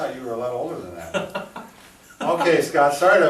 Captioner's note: laughs